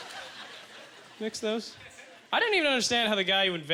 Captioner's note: audience laughter